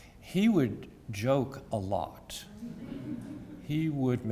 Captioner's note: laugh